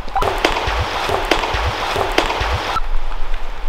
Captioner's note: water cracks